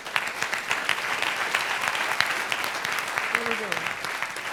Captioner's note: applause